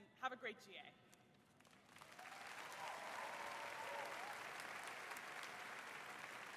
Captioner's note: applause